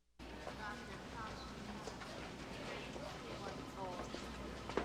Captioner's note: people chattering